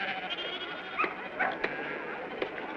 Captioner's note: sheep baaing; dog yelps